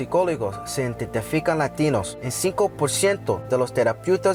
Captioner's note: speaking Spanish